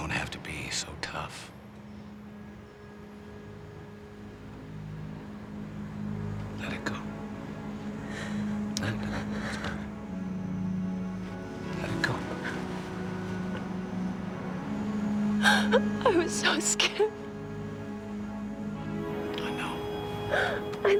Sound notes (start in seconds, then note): 15.3 sobbing